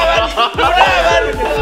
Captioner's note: laughs